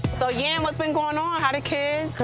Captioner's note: none